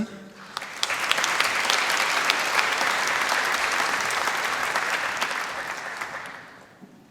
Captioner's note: applause